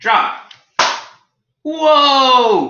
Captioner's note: book hitting floor